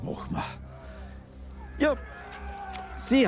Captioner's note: crowd screams excitedly